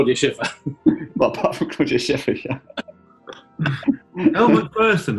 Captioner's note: laughing